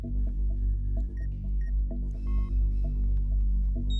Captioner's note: beeps